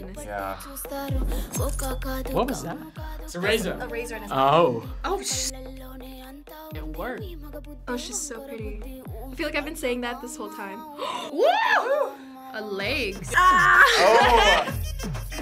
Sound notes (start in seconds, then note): 10.9 gasps; 13.4 laughs